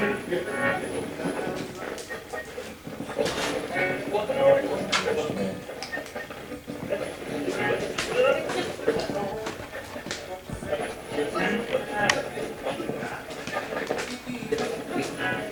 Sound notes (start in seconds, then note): 0.2 radio channel changing; 7.9 radio channel changing